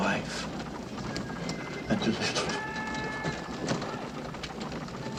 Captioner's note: sobbing